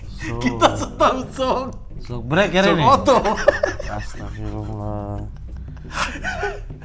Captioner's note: giggling